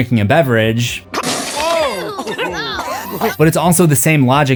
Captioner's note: spits out beverage